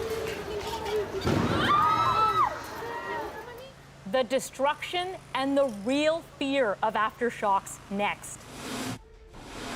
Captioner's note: screaming